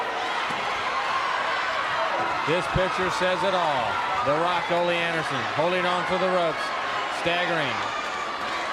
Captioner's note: crowd cheering